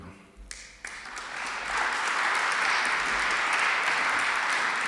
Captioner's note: applause